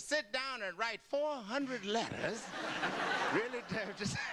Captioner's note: audience laughter